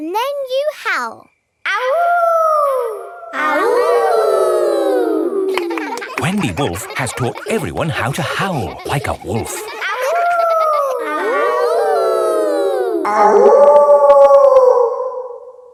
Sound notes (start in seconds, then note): 1.9 howling; 3.8 kids howling; 9.8 howling; 11.7 kids howling; 13.7 wolf howling loudly